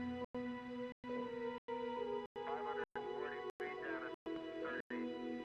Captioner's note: radio Chatter Continues